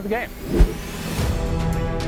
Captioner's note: whooshing